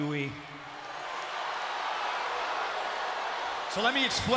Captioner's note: crowd cheers